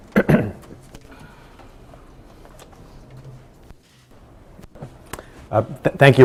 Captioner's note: clears throat